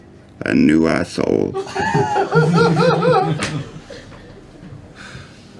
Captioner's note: laughter